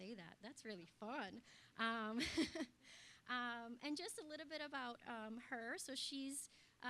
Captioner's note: laugh